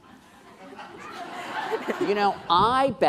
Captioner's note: laughing